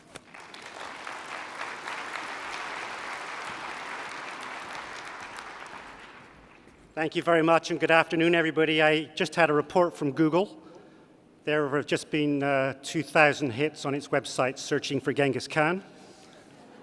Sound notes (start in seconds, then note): 4.7 applause